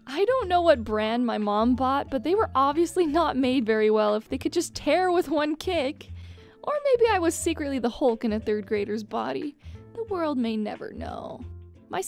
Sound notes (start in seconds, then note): none